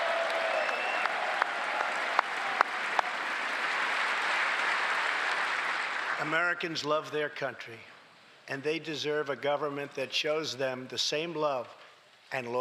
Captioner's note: applause